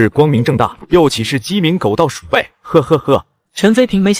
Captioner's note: chuckles